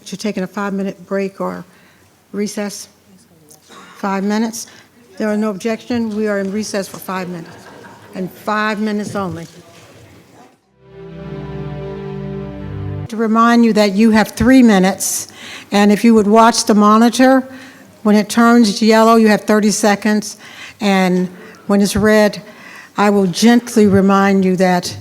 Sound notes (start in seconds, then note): 10.1 speaking faintly; 10.7 gentle music